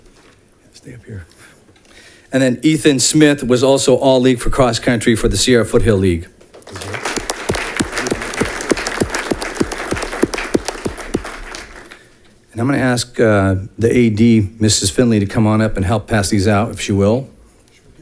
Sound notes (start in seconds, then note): 6.6 audience clapping